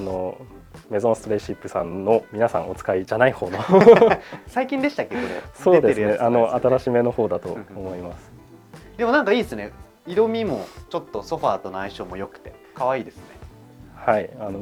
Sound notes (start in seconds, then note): 3.5 laughs